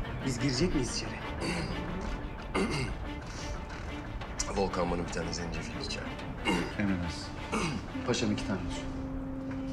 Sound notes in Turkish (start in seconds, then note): 2.5 Boğaz temizleme sesi; 7.5 Mustafa boğaz temizleme sesi